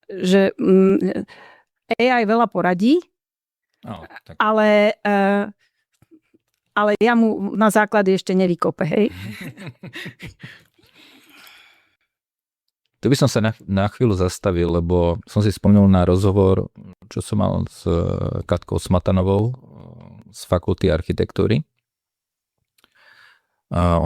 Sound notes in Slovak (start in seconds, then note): 9.1 smiech